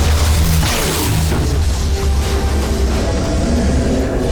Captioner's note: grunt; zap